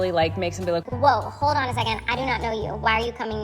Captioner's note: digital kid's voice